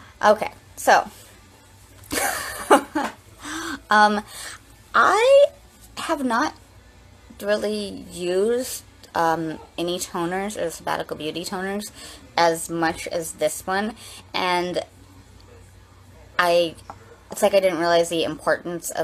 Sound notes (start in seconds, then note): 2.1 laughs